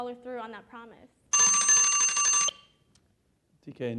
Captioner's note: alarm rings